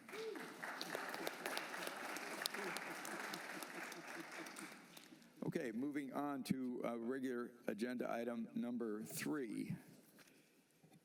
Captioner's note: applause